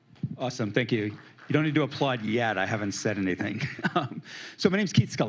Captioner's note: scattered applause